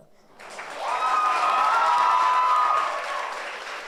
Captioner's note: audience cheers